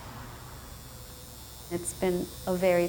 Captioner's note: tattoo gun buzzing